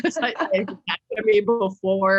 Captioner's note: laughter drowns out speaker